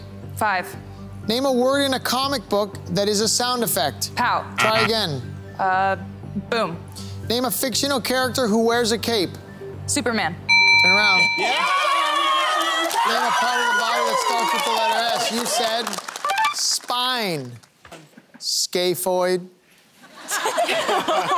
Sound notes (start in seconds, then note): 4.6 buzzer sounding; 10.5 bell ringing; 11.4 cheering; 20.0 laughter